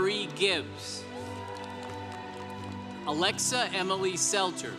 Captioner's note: congregation cheering